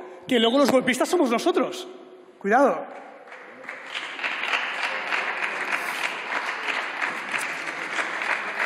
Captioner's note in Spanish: Aplausos